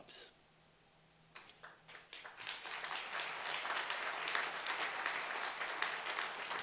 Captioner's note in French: Applaudissements